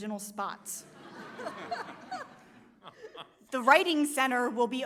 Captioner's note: audience laughs